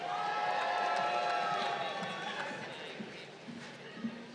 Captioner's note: crowd cheering